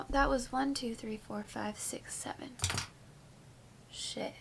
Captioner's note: pen drops